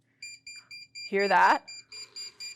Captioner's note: beeping